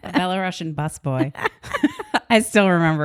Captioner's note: both laugh